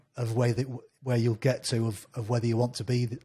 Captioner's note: none